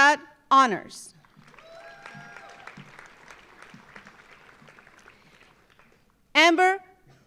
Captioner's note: audience applauding; audience cheering